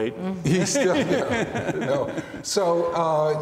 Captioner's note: laughing